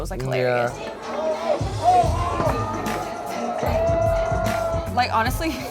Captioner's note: wedding guests cheering